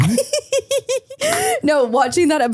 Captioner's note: people groaning